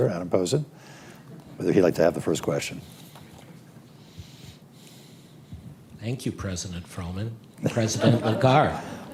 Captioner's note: laughter